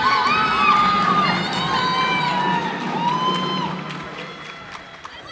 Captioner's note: cheers and applause